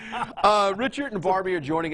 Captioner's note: laughing